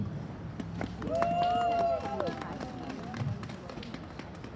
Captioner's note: applause